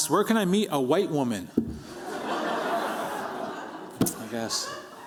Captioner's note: laughter